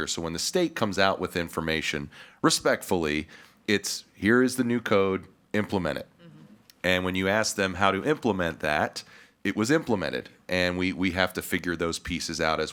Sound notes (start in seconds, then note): none